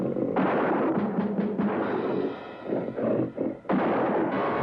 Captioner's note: gunfire popping